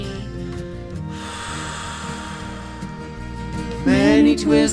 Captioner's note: exhaling